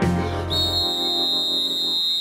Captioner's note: whistle blowing